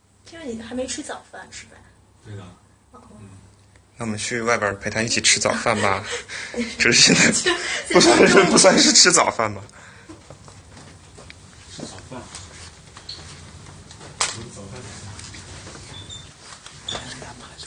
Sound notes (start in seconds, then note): 5.4 laughs